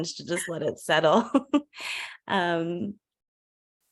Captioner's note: laughs